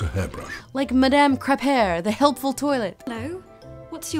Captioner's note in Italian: voce fuori campo